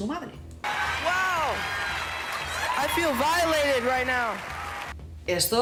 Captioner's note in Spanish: Aplausos